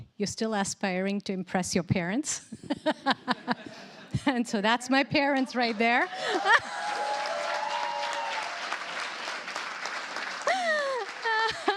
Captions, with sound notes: you're still aspiring to impress your parents. [LAUGHTER] And so that's my parents right there. [CHEERS, APPLAUSE]